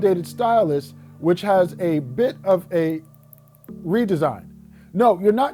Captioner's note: pen clicking